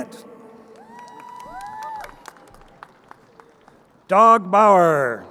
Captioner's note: crowd cheering